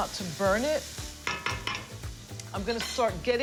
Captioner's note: tapping